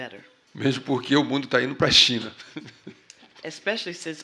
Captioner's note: speaking portuguese